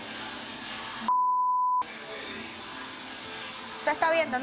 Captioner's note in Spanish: Bip